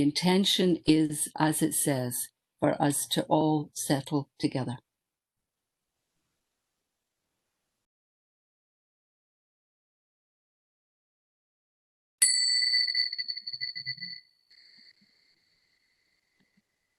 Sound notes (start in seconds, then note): 4.7 bells ringing